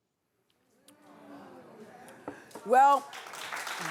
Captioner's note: audience murmuring; clapping